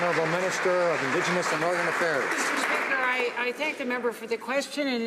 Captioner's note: some Applause